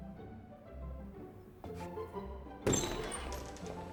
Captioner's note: door swings open